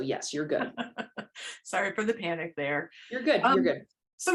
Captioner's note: laughter